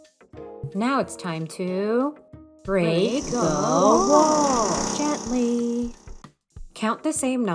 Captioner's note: construction noise